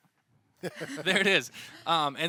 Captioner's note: everyone laughs